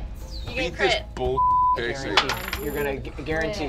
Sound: beep

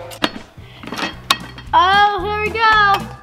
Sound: clicks

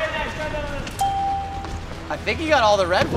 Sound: ding

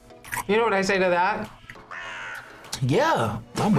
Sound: crow caws

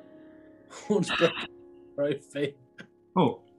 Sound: chuckling

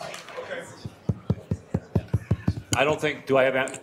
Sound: microphone thumping

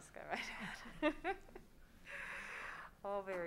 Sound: laughs

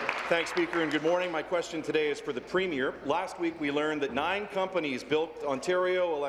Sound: applause

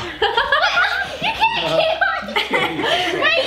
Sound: laughs

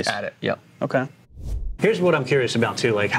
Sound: air swooshing

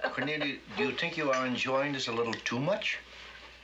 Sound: women chuckle

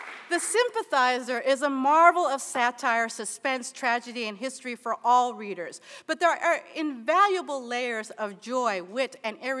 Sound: applause

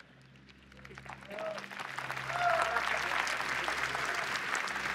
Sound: cheering and applause

